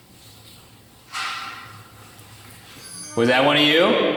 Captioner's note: object clacks